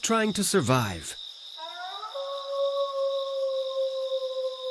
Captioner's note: wolf howling